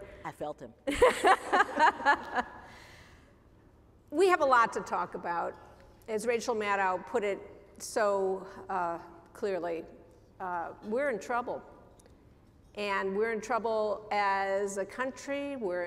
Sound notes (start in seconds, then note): 0.8 laughter